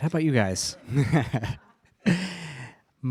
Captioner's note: laughing